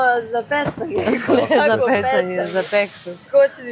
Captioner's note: laughter